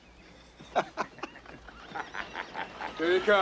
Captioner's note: both laugh